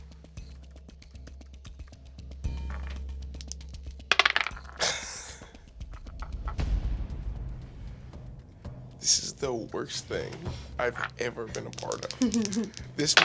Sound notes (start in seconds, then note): 4.8 laughing